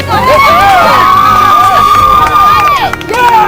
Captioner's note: cheering